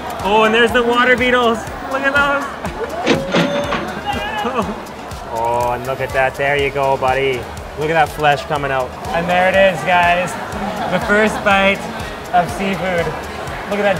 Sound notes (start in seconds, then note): 3.0 cash register ringing